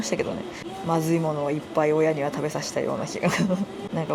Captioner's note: laughs